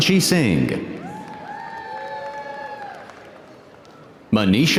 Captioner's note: audience cheering